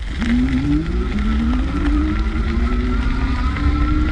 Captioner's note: motor revving